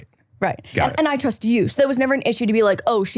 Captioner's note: laughing